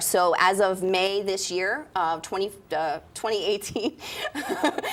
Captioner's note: laughs